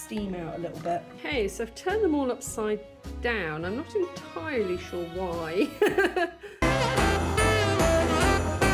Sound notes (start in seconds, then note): 5.9 laughing; 6.6 funky Christmas music